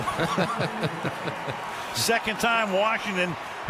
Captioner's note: laughter